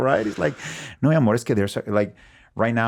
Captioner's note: speaking in Spanish